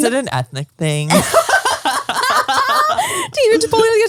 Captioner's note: all laugh